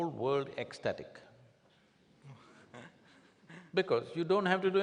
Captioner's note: few laugh